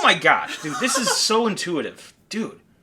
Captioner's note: laughing